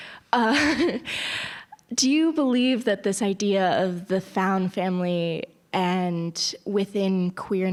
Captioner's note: laugh